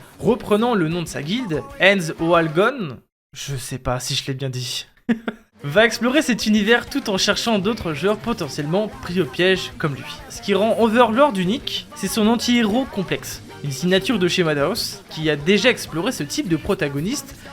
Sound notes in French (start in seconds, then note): 5.1 Rire